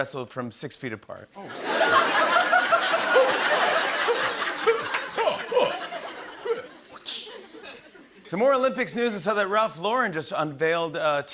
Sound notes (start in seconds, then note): 1.4 laughter